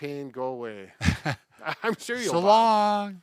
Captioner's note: both laugh